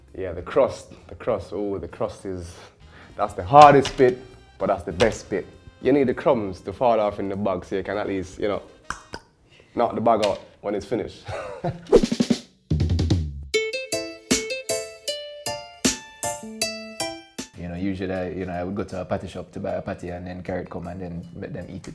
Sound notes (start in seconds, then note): 8.9 knocking sound; 12.8 reggae music